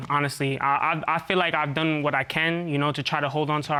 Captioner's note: stuttering